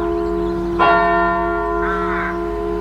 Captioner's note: church bell strikes